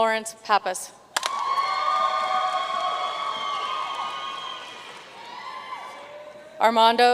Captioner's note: audience cheering and applauding